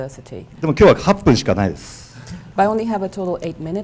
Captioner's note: speaking foreign language